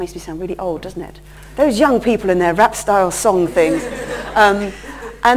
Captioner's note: laughter